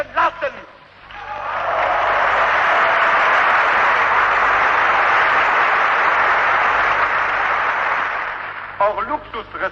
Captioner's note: applause